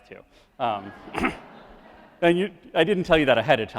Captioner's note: crowd laughs